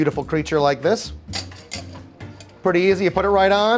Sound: cheerful music; strainer clacking

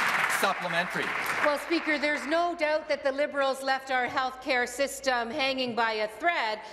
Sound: applause

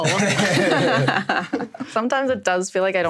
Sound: everyone laughs

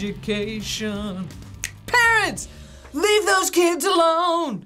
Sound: snaps

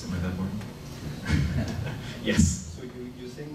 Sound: laughing

